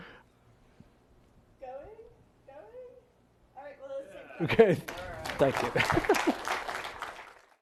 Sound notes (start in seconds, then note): 6.6 applause